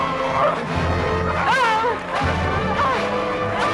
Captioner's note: both grunting